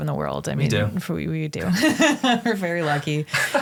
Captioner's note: laughs